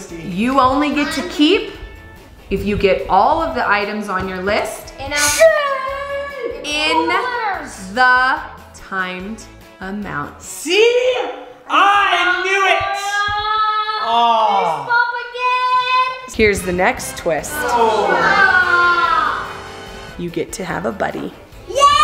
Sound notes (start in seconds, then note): 17.6 everyone groans; 21.8 cheering